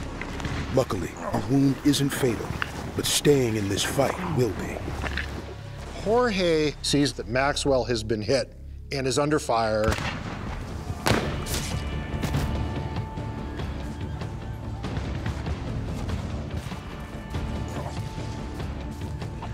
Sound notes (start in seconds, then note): 10.8 gunfire